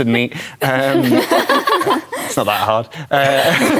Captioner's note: laughter